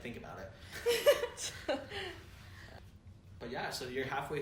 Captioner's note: laughter